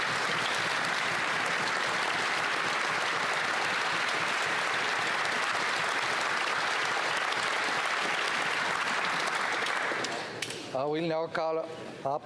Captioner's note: applause